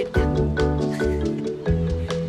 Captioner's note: chuckling